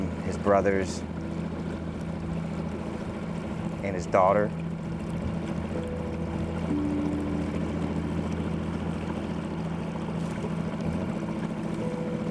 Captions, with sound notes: his brothers and his daughter. (gentle music) (motor droning)